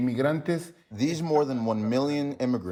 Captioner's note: through translator